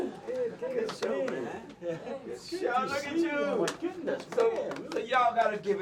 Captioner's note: group laughing